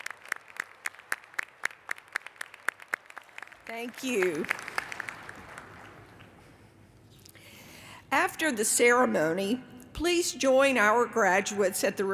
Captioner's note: applause